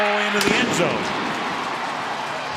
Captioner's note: firecrackers bursting; cheering